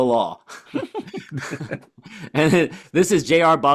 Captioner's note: laughter